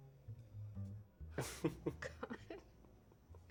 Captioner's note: chuckles